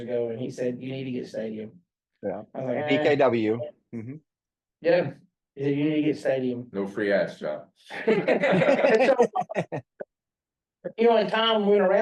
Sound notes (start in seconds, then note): 7.9 laugh